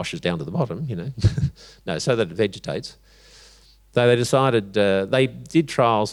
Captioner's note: chuckles